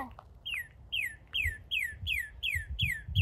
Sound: bird chirping

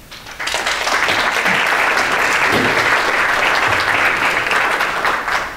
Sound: audience clapping

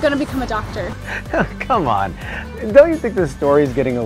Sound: chuckles

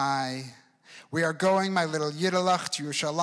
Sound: speaks in foreign language

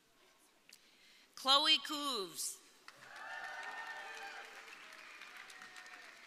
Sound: audience cheering

